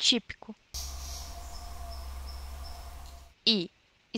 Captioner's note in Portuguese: Som do canto da espécie, pic pic pic